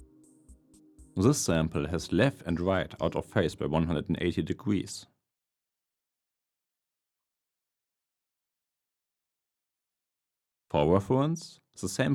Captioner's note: audio sample out of phase